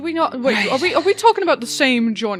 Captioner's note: sighs